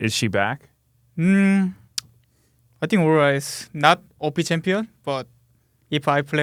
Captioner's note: smacks lips